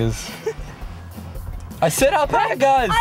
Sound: laughing

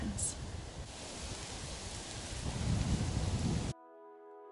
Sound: leaves rustling; wind blowing; gentle music

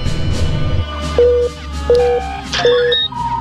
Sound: dramatic music; red alert klaxon beeping

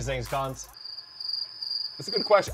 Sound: crickets chirping

